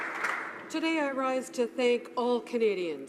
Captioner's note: applause